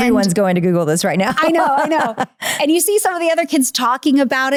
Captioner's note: laughing